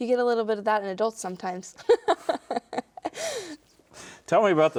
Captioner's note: laughing